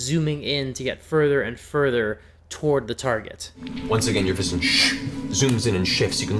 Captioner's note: shhh